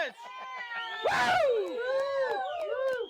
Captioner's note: crowd cheering